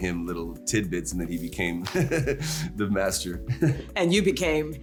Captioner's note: chuckles